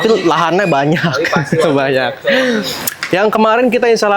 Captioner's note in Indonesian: tertawa